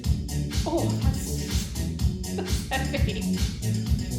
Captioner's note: chuckles